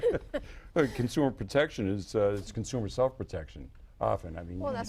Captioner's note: laughter